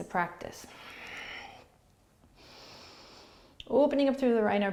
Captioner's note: breathing